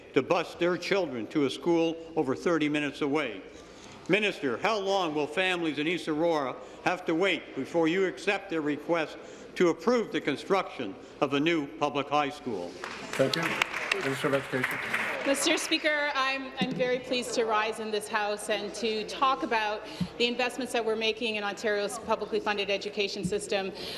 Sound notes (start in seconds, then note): 15.9 applause